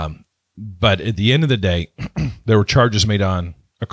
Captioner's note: clears throat